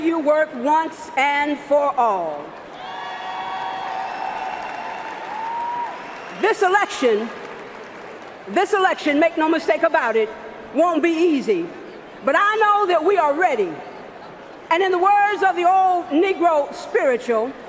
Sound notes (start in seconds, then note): 8.9 cheering and applause